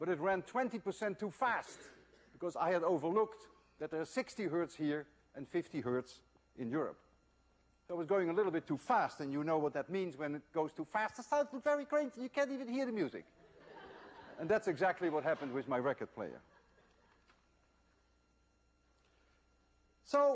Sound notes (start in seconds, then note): 11.1 speaks in a high tone voice; 13.4 laughter